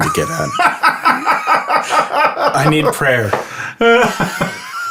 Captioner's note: laughs